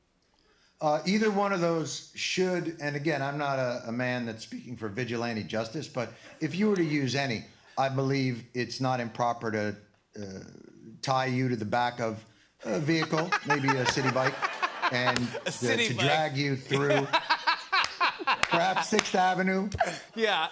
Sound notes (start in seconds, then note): 16.7 laughs